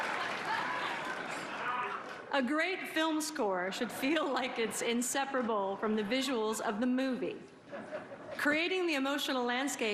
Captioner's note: laughter and applause